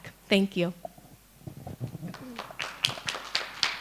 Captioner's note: applause